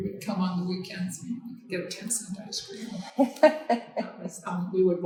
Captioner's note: laughing